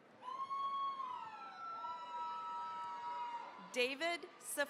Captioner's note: cheering, applause